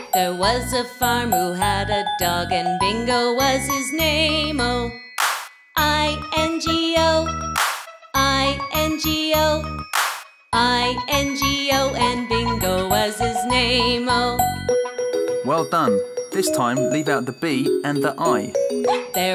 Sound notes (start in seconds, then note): 7.5 clap; 9.9 clap